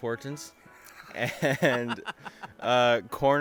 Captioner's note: laughing